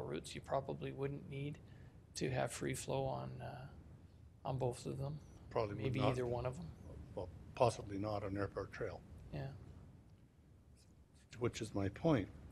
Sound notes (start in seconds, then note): none